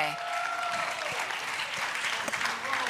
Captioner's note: applause